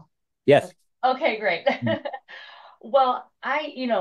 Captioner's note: laughs